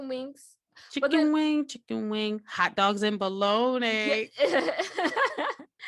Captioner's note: laughter